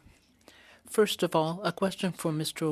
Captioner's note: speaking French